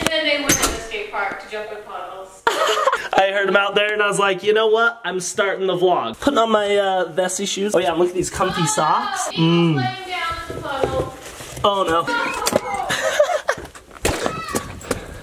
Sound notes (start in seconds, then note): 2.4 laughs; 12.1 laughs